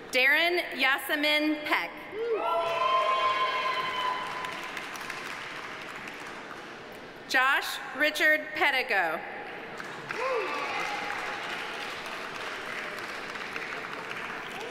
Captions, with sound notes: Derin Yasemin Peck. (audience applauding) (audience cheering) Josh Richard Pedigo. (audience applauding) (audience cheering)